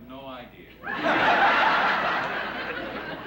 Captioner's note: laughter